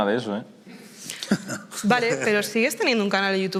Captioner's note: laughs